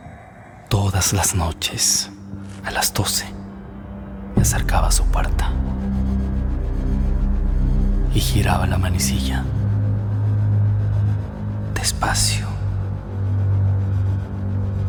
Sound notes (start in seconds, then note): 0.6 whispering; 6.1 suspense music